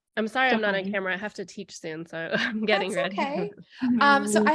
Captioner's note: laughter